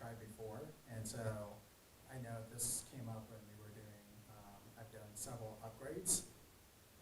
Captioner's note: speaks faintly